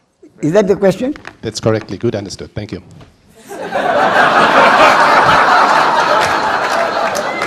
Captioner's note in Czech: smích